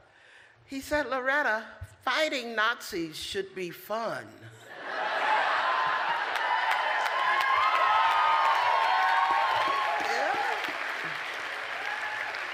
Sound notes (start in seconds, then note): 4.6 laughter; 6.0 applause; 9.8 cheers